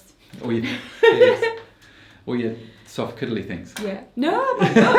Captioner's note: laughs